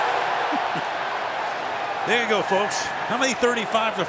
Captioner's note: crowd cheering